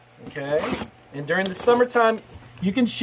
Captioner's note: cutting